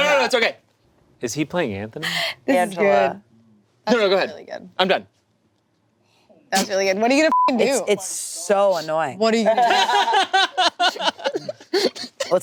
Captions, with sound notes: - No, no, no, it's okay. - Is he playing Anthony? - Angela. - This is good. - No, no, go ahead, I'm done. - That's really good, what are you gonna (beep) do? - It's so annoying. - What are you gonna do? (group laughing)